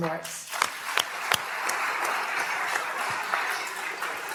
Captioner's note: applause